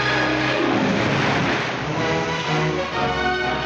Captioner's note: splashing